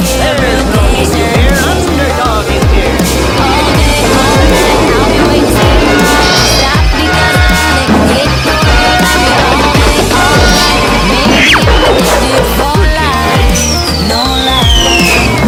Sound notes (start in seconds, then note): 6.1 biff!; 10.2 smack!